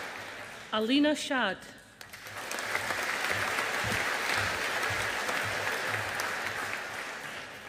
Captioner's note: audience applauding